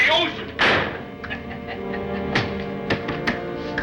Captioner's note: laughs